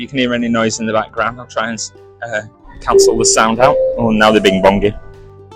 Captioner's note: bing Bong